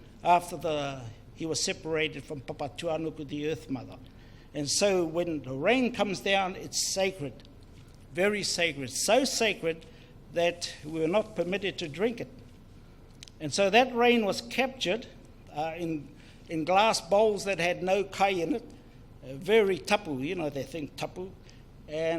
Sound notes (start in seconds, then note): 18.1 foreign Language